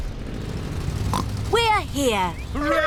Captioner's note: oinks